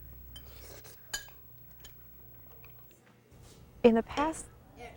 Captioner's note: clinking cutlery; food slurping